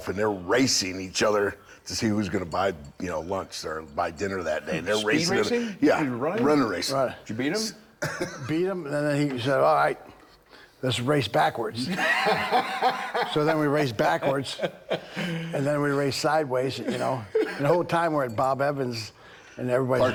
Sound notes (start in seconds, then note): 8.8 Rick laughing; 11.8 Bron laughing